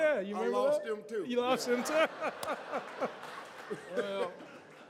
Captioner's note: audience laughs